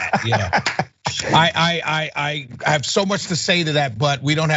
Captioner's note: laugh